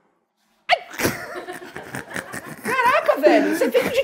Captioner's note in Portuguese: risadas